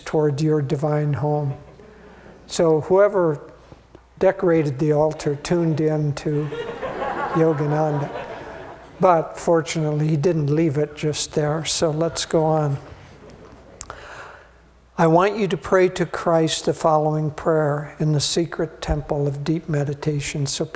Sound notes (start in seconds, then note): 6.4 laughing